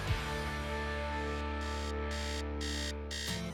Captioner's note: alarm buzzing; upbeat music